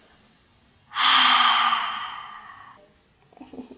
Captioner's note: self deprecating sigh